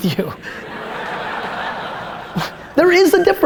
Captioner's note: audience laughter